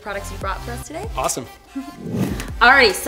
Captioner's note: loud swoosh